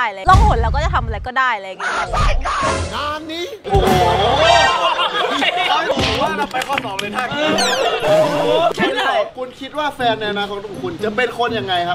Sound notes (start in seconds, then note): 3.4 laughs; 7.5 laughing continues